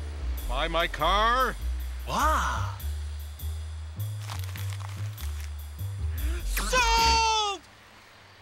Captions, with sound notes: Buy my car? Wow! (MONEY RUSTLING) Sold!